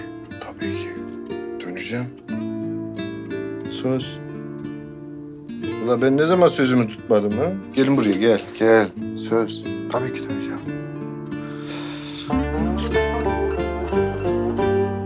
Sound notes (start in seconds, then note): 5.5 speaks with Black Sea dialect; 11.3 emotional music rises